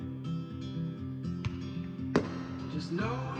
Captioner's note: firecrackers booming